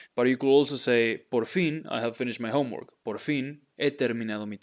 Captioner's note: speaking in Spanish